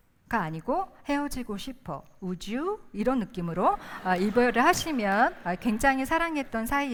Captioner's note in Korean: 웃음